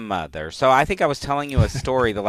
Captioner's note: laughs